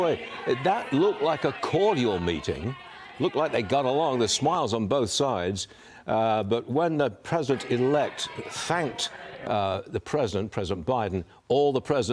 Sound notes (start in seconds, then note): 0.0 loud chatter